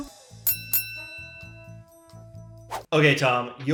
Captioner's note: ring bell chimes